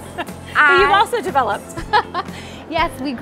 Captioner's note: laughing